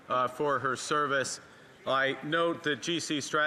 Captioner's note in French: voix de l'interprète